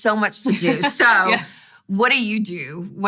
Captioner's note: laughs